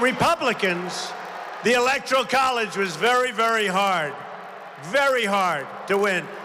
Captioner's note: applause